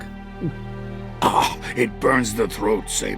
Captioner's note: drinks, coughs